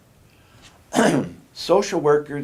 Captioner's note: coughs